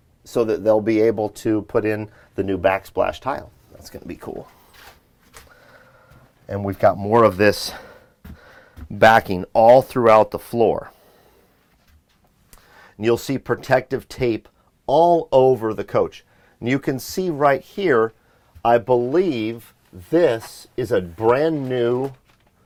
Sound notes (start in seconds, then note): 5.4 inhales; 7.6 heavy breathing